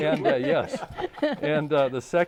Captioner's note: laughing